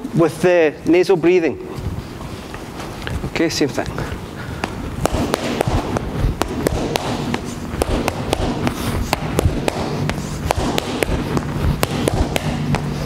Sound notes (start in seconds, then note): 4.5 gloves slapping